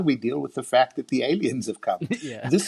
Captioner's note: laughing